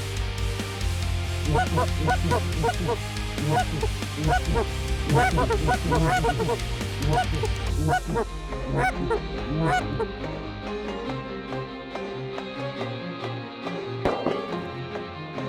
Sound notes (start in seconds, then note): 1.2 goose calls; 14.1 gun shot